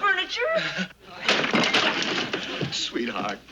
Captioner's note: clattering